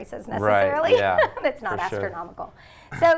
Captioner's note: laughs